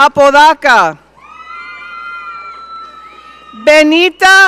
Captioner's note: audience cheering